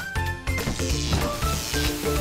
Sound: upbeat music; electric sound; static sound

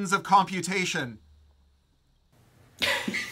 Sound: laughing

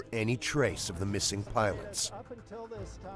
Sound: voiceover

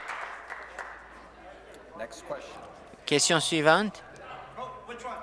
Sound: applause

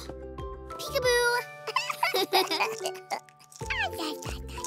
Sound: giggles

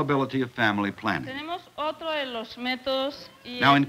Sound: speaking Spanish

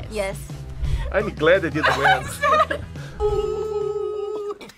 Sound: laughs

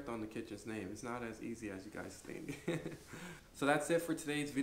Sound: laughs

